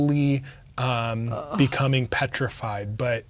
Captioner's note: groaning